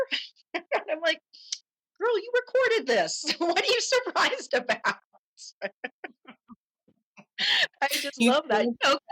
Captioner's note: laughter